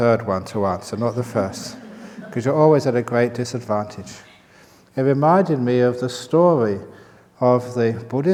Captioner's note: laughter